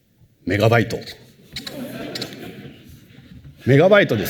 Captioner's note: laughter